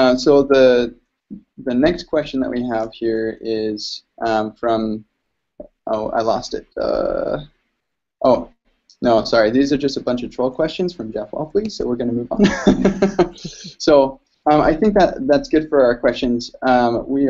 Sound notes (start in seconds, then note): 12.4 laughter